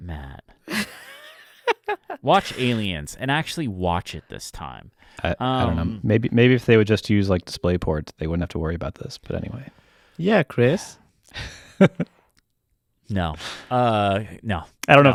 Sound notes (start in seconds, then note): 0.6 both laughing